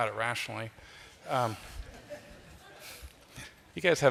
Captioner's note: laughter